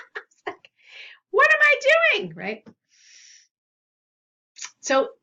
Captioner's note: laughs; breathes in